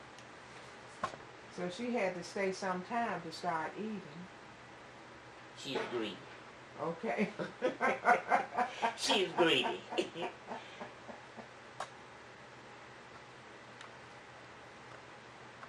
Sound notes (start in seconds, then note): 7.2 laughter